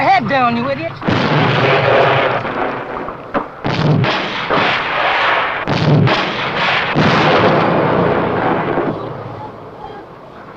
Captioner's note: explosions